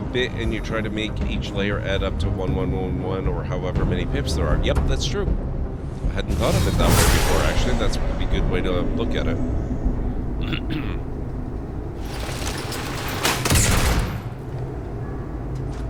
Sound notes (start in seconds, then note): 13.2 cough